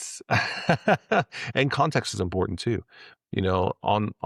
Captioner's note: laughs